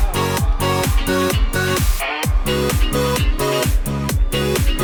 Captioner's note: audience applauding; upbeat music